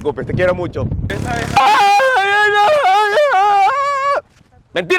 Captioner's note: aaaaaaarrrggghhhhh